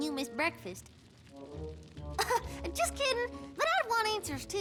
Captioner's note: chuckle